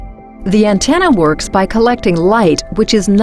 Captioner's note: voiceover